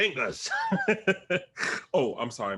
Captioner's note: Bobo laughs